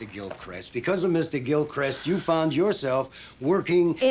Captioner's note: exhales